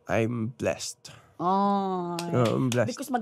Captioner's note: claps